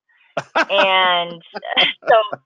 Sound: laughing

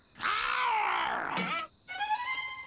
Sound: werewolf growling

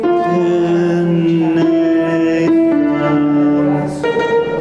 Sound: humming

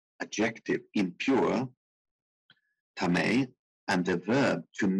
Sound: speaking in foreign language

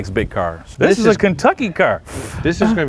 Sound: blows raspberry

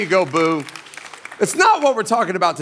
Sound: congregation clapping

